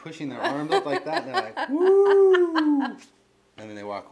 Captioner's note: cheers